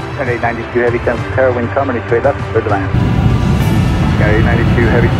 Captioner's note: roaring engine drowns out pilot